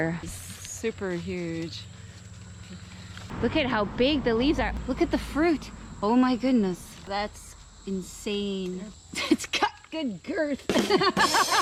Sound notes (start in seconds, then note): 10.8 laughing out loud